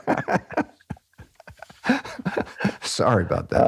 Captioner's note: laughs